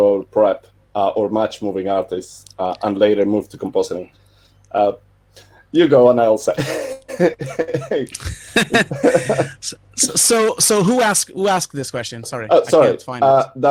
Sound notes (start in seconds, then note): 6.6 laughing